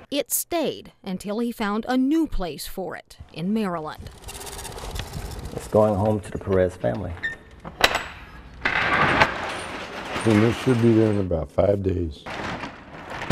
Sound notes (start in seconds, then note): 7.0 door slides; 7.3 latch clicks